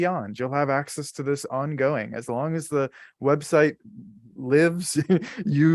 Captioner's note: chuckles